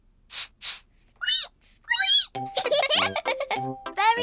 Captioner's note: sniffs and squeaks; both sniff and squeak; giggling